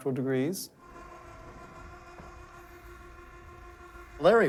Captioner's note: roof buzzing